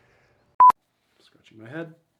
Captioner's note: screen beeps